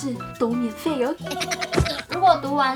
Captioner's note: hee hee hee